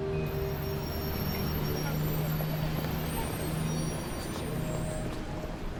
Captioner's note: city Traffic